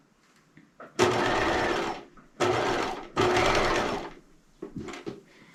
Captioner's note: sewing machine humming